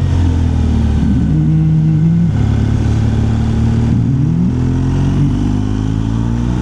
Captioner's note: engine